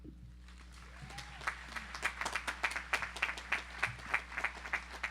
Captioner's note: audience applauding